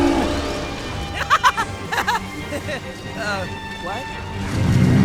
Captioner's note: Tai's laughter is turned into concern